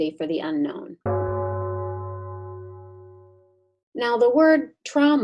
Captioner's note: gong ringing